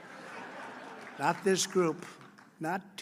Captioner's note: laughter